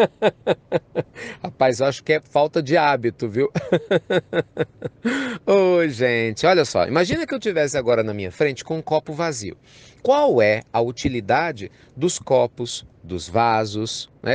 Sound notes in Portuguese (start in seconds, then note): 3.5 Risos